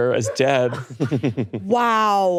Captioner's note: laughing